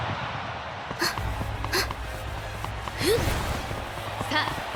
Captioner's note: grunt; huff